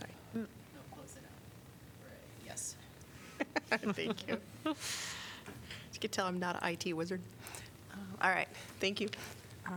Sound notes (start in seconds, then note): 3.3 laughter